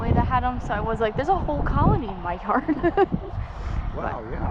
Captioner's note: laughs